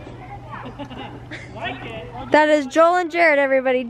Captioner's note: laughs